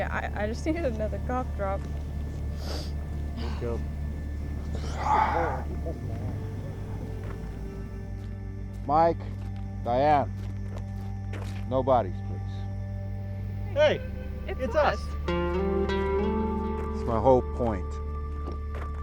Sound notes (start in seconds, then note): 13.9 in Unison; 15.6 serene music